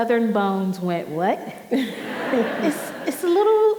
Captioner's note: audience laughing